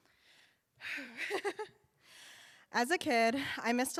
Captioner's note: sighs, chuckles